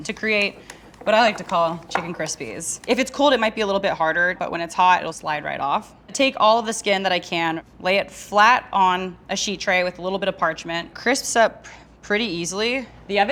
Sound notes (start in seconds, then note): none